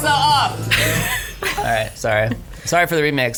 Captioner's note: laughs